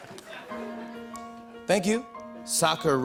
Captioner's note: soft piano music plays; normal voice